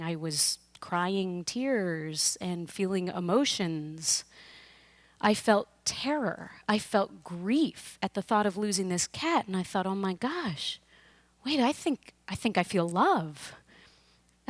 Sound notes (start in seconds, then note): none